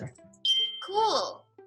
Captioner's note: beep